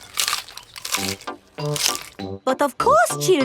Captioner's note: munching